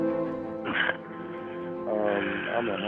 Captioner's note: man coughs